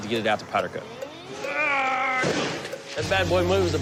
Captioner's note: grunts